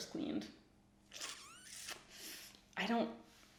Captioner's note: sucks teeth